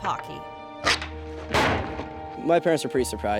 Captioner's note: door clangs